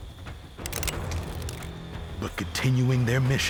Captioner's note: cocking rifles